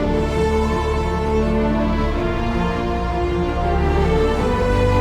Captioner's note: dramatic music; wind howling